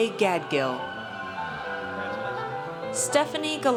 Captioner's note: audience cheers